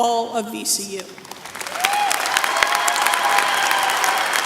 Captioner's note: applause